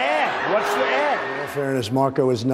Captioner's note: cheering; applause